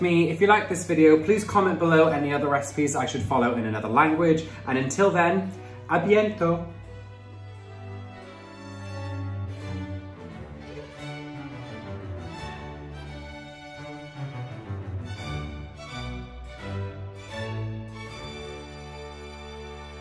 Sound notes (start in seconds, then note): 5.1 speaking in foreign language; 7.9 gentle music